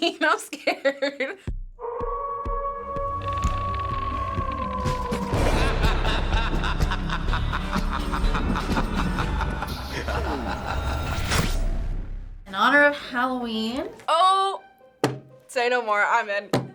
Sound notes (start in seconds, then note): 0.3 laughs; 2.5 wolf howling; 5.3 creepy laughter